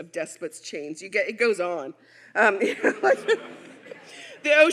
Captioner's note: audience laughing; laughs